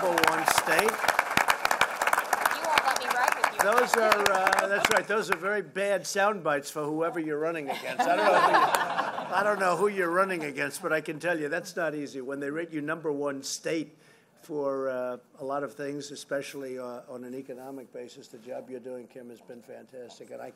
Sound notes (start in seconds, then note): 4.2 laughs; 7.6 laughter